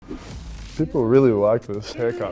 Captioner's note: air whooshing